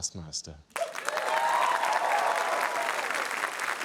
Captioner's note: cheering, applause